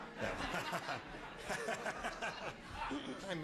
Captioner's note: laughs